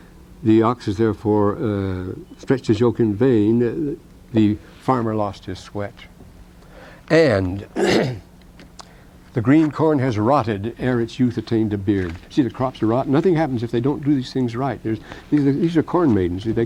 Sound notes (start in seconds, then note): 7.6 coughs